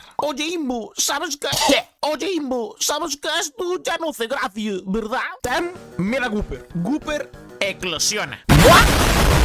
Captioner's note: coughs